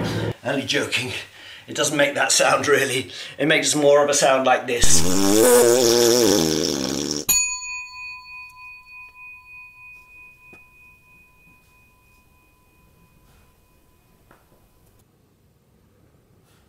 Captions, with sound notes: only joking it doesn't make that sound really it makes more of a sound like *cough*